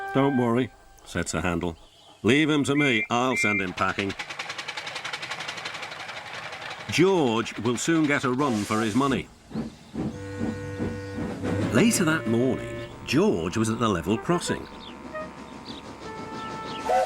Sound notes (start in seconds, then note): 9.5 Sir Handel whistles and chuffs away